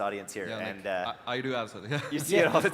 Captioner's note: laughs